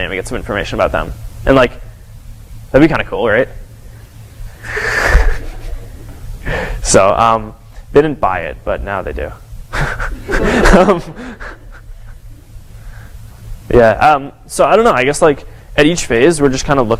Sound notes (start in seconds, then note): 9.7 laughter